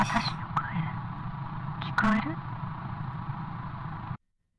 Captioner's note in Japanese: 粗いノイズ混じりの音声